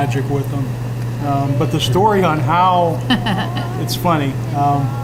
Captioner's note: laughing